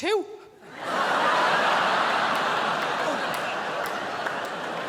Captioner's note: crowd laughs